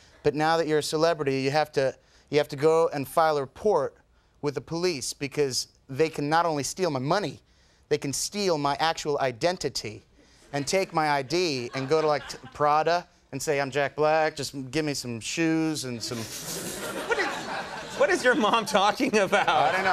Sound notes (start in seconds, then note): 15.9 crowd laughing